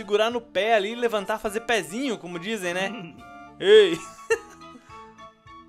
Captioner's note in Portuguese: Risos